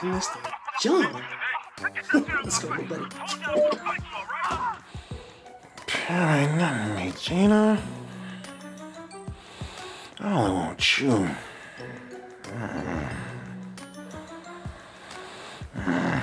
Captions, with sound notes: Oh, I gotta send this to John. Let's go little buddy. - Pam don't mean nothing to me, Gina. I only want you. (grunting)